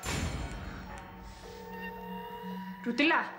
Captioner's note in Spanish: timbre en la línea